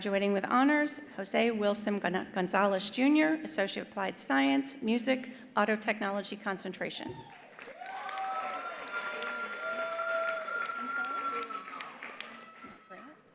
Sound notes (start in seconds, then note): 7.2 attendees cheering; 7.2 attendees applauding